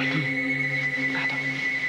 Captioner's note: Le téléphone sonne